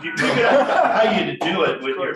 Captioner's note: laughing